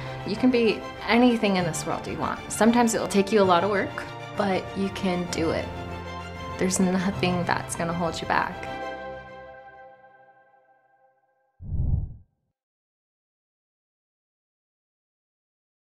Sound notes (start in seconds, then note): 8.7 music stops; 11.6 swish